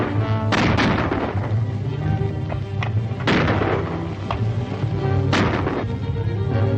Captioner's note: soft suspenseful music; guns banging